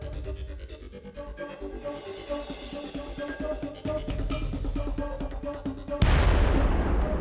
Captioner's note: explosion; voiceover